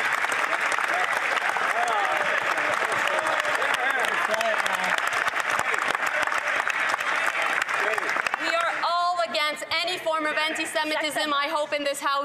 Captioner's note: some Applause